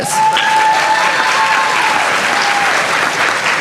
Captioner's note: applause